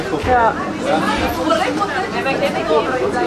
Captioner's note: conversations in the background